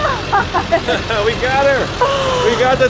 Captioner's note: laughs